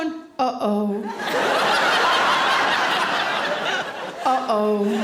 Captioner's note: audience laughing